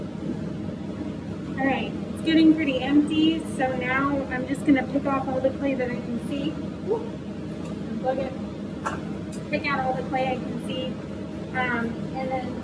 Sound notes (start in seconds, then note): 5.9 mixing Sounds